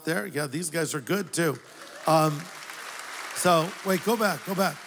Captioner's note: applause